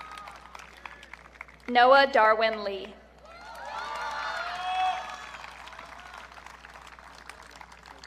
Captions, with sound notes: Noah Darwin Lee. (audience cheering)